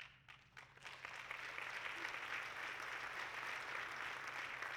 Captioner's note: audience clapping